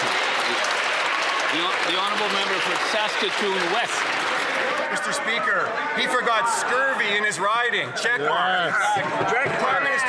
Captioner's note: some Applause